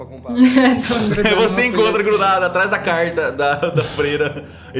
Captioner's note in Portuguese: Risada